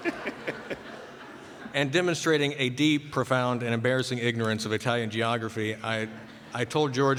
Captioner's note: laughter